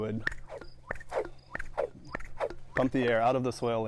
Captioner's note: air whooshing